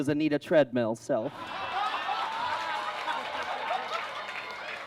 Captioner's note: audience laughs